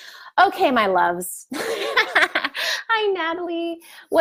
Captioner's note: laughs